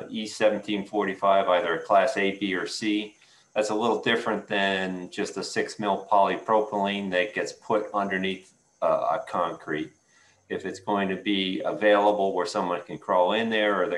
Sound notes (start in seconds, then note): none